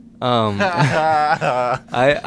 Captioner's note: laughter